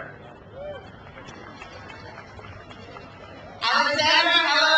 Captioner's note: crowd cheers